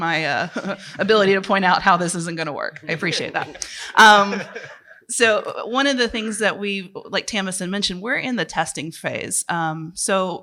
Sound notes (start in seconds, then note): 4.0 laughter